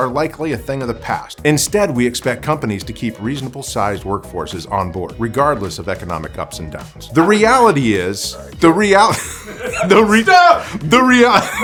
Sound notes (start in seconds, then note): 9.1 laughs